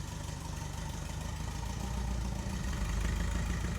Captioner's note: engine revving